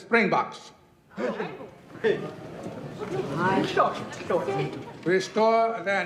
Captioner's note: chatter